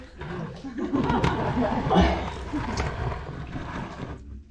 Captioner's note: groaning; laughing